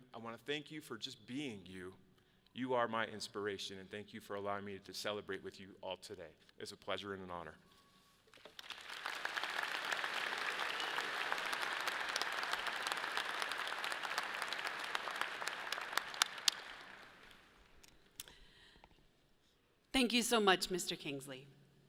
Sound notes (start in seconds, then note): 9.2 audience applauds